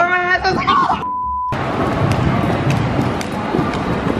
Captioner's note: beeping